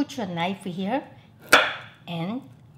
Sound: knife thuds

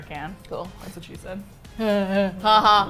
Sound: forced fake laughing; laughs

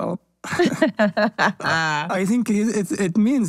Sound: laugh

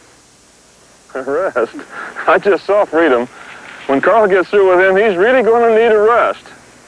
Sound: laughing

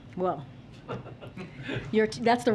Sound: laughter

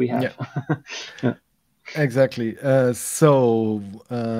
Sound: laughs

